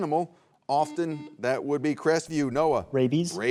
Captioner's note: buzzer beeps